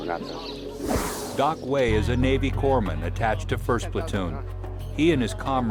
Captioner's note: voiceover